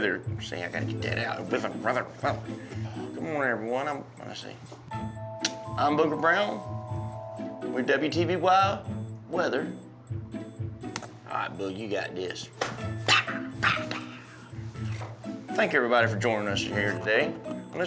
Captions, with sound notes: SEE, I GOTTA GET THAT OUT... WEATHER, WEATHER, WEATHER. GOOD MORNING EVERYONE, I'M- [MUMBLES] I'M BOOGER BROWN WITH WTVY WEATHER... [SLAPS FACE] ALRIGHT, BOOG... YOU GOT THIS! POW! POW! POW! I THANK EVERYBODY FOR JOINING US HERE TODAY ON THIS